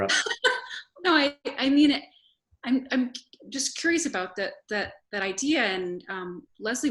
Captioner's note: laughs